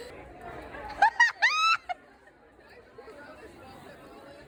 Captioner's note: laughs